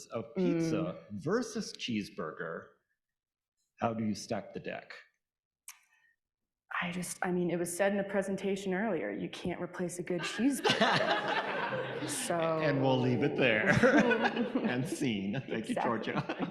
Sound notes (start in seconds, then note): 11.8 audience laughing